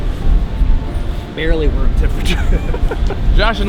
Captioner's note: all laugh